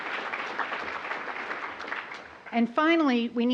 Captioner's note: applause